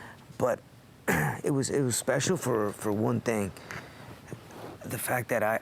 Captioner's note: cough